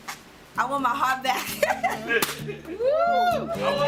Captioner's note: laughter